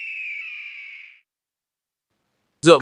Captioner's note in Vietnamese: la hét